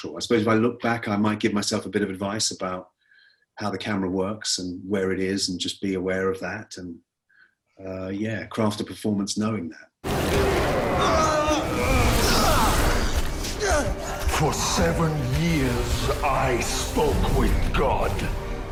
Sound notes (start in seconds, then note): 10.2 action music begins; 11.9 groaning sounds